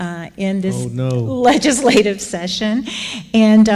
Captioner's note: chuckling